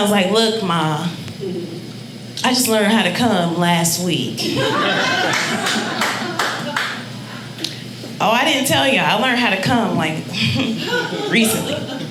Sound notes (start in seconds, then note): 4.4 audience laughing